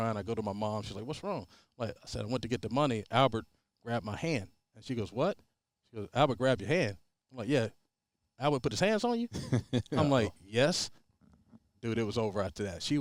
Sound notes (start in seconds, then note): 9.3 laughing